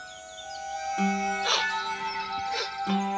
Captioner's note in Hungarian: sniffs